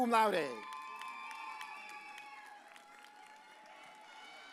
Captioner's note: audience cheers